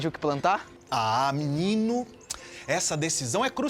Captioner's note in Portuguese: Boca estralando